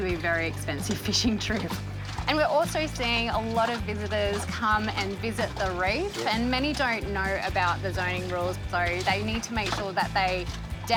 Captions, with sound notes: just to ease the pressure on this little zone. (water splashing) (water gurgling)